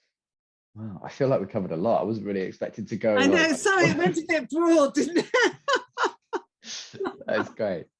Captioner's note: laughter